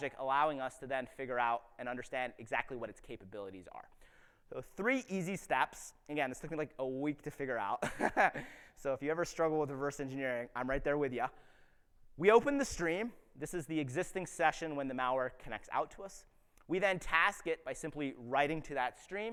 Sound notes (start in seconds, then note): 7.8 chuckles